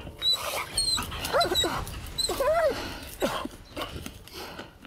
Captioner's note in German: winseln